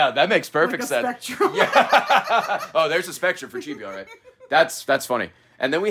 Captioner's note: laughs